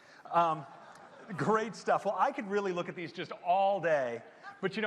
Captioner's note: laughter